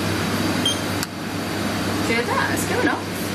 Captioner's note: metre beeping